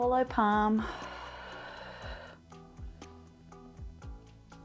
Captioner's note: exhales